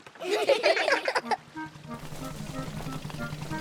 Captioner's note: all giggle